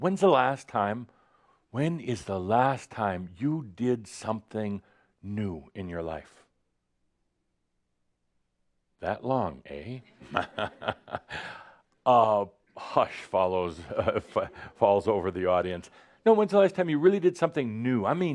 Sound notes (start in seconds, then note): 7.2 short pause; 10.1 chuckles